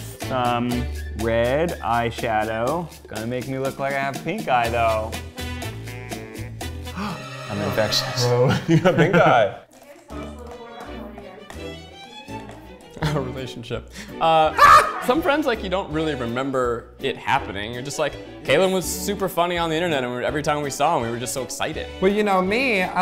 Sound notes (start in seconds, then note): 6.9 gasps